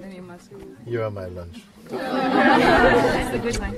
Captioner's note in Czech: smích